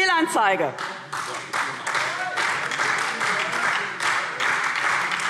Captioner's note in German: Beifall SPD, Freie Demokraten und DIE LINKE